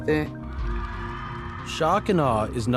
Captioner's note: cheering